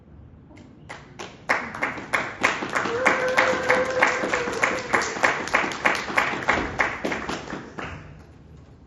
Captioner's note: applause